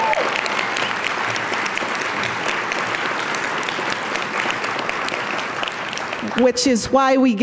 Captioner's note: applause